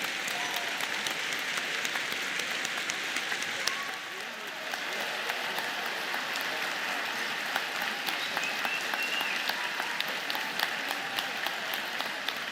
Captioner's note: cheers and Applause